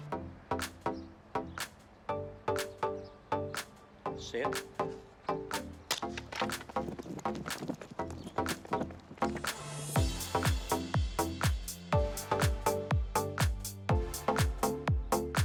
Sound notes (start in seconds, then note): 0.0 mellow techno music; 5.9 starter gun clicks